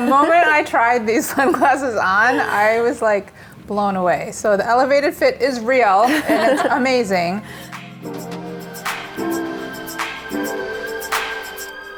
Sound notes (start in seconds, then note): 0.0 everyone laughs; 6.1 laugh; 7.6 hip music